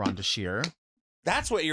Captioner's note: knee slaps